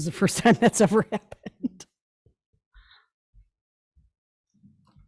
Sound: laughs

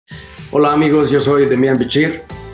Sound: speaking Spanish

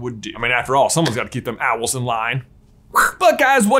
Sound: hisses

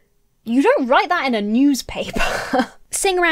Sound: laughs

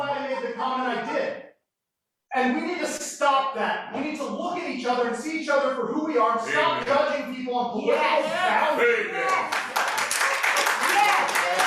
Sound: applause

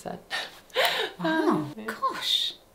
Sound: laughs

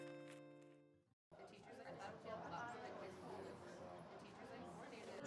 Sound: people chattering

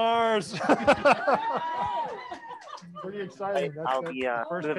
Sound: scientists laughing

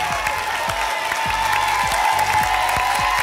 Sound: applause and cheering

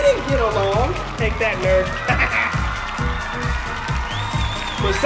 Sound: laughs

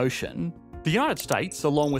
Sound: mouse clicking

